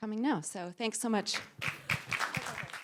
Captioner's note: applause